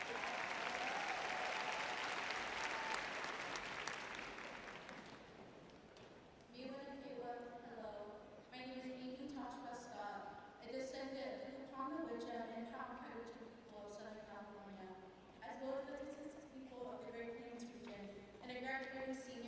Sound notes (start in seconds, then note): 0.0 cheering; 4.7 applause; 5.4 speaking indigenous language